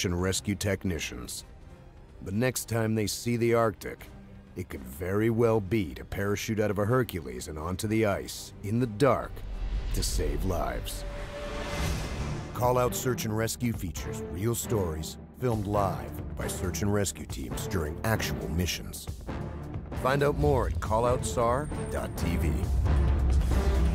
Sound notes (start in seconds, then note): 3.8 voiceover